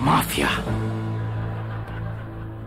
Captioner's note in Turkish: Gülme efekti